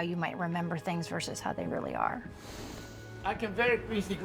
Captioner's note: exhales